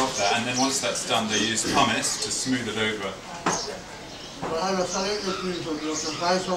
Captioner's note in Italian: parla birmano